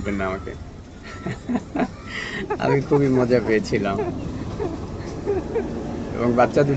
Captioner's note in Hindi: हँसी!